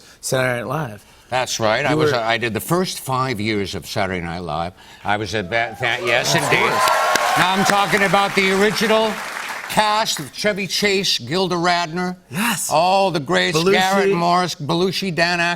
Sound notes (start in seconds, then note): 5.5 cheers and applause